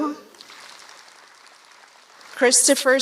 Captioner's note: applause